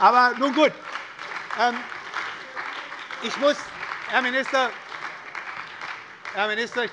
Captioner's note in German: Beifall bei der SPD und der LINKEN sowie bei Abgeordneten der FDP